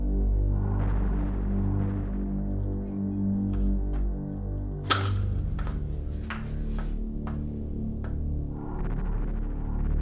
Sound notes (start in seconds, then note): 4.8 closing blinds